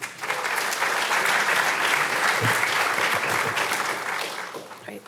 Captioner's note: audience applauding